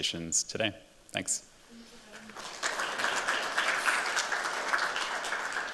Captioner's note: applause